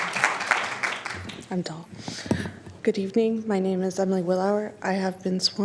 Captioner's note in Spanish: aplausos